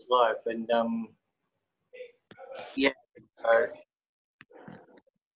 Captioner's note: audio distorts